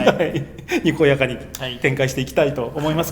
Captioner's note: laughs